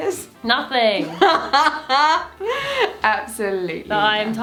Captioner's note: laughing